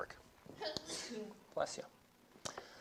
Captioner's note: student sneezes